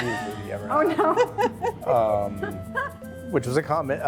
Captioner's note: laughing